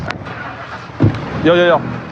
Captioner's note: enginstarts